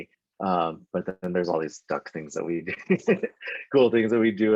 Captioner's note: laughs